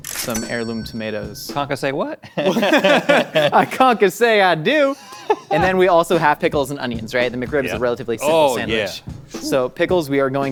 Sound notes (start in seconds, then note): 2.3 both laugh; 4.6 Rhett laughs